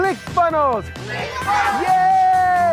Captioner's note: older Man's Voice; children's Voices; older Man's Voice